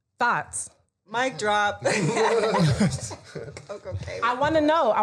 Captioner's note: laughing